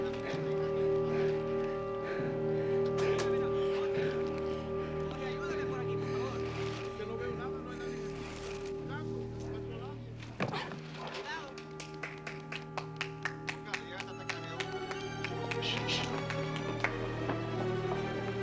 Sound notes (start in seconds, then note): 11.4 clapping; 15.1 shushes